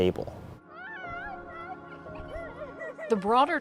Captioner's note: children laugh